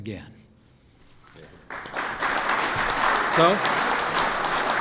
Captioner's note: applause